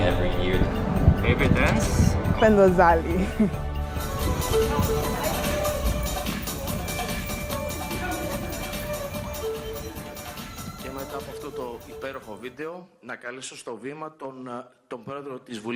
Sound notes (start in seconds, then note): 4.2 laughter; 5.9 opening title music